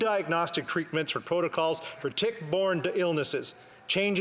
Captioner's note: none